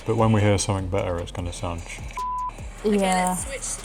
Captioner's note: beep